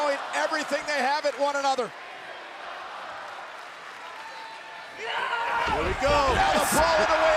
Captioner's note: applause